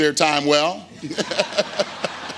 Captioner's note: laughter